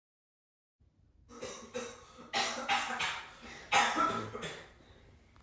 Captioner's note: loud, painful coughing